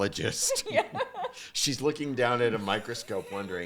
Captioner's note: laughs